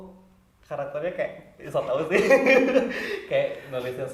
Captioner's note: laughing